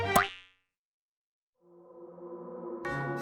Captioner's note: pop